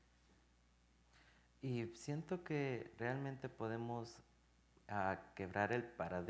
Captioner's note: speaking in Spanish